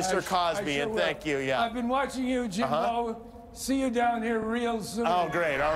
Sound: audience moaning

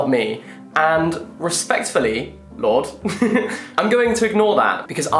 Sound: laughs

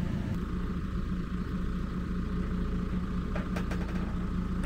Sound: engine running

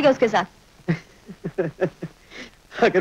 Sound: laughing

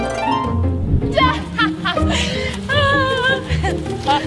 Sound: harp music; laughs

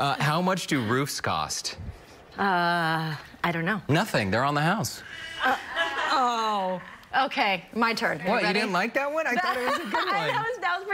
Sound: laughter

